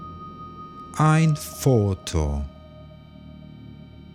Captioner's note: german